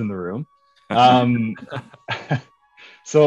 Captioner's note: laughs